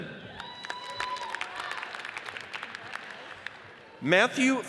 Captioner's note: audience cheers and applauds